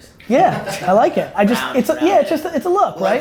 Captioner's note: group laughter